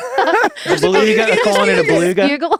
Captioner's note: group laughing